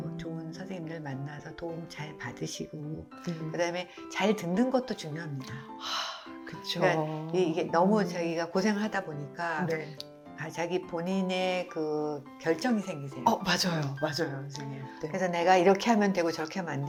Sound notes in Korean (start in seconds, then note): 5.9 한숨